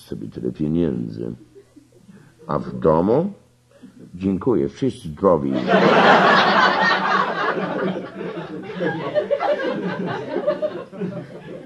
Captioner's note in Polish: śmiech